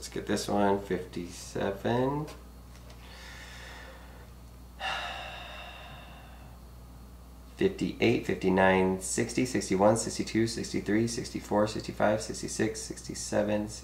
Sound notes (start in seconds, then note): 4.8 sighing